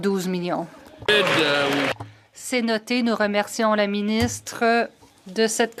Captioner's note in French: voix de l'interprète